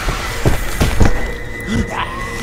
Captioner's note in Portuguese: grito